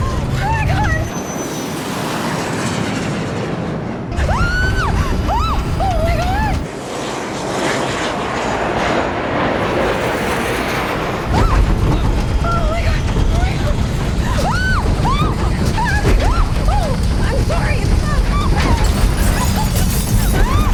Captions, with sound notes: Oh my God! [SCREAMING] Oh my God! [SCREAMING] Oh my God. Oh my God. [SCREAMING] I'm sorry. [SCREAMING]